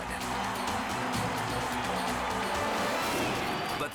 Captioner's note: crowd cheering; suspenseful music